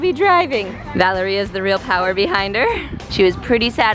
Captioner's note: laughs